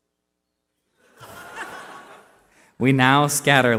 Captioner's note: laughter